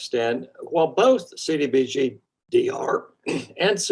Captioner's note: clearing throat